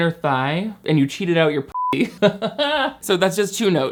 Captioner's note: beep; laughing